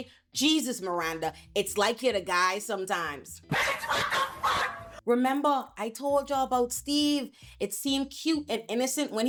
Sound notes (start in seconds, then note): 3.5 laughing